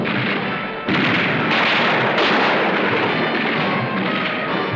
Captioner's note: guns firing